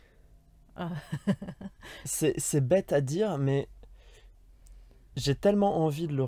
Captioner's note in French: Rires